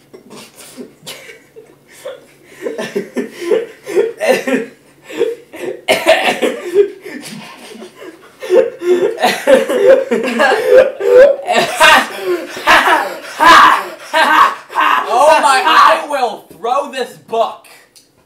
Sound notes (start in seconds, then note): 0.0 both start laughing; 2.9 laughing intensifies